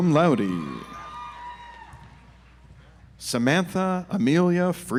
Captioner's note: audience applauds